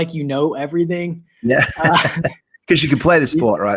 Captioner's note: both laugh